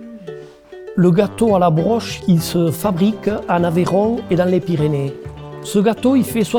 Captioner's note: speaking in foreign language